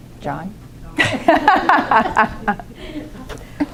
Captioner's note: laughter